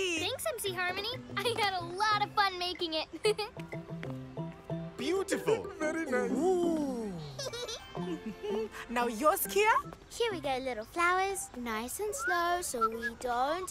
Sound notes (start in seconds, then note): 3.2 chuckles; 7.8 humming